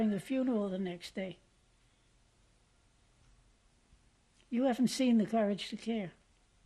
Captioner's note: pauses for 3 seconds